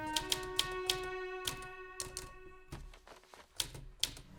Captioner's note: dramatic music; typewriter clicking